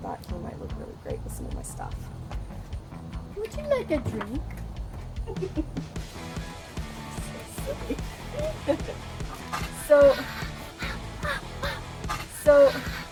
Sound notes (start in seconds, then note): 6.9 both laugh